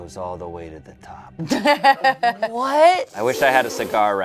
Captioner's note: everyone laughs